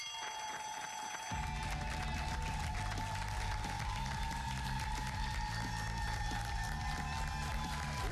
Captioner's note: cheers and applause